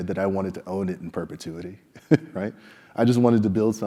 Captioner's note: laugh